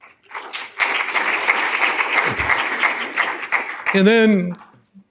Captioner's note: applause